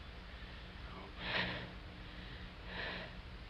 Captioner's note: whispers